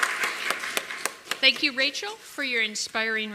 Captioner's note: applause